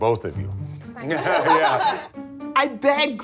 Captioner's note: laughter